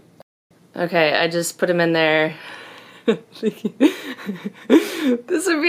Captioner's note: laughing